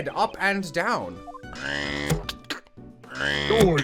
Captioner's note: robot noises